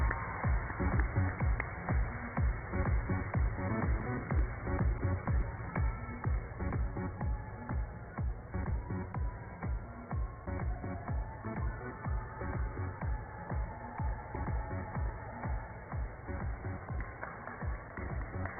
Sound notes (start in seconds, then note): 1.8 cheers and applause